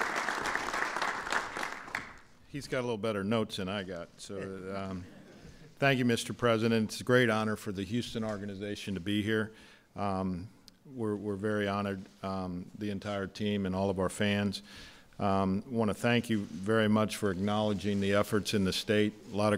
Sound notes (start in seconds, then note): 0.0 applause; 4.8 laughter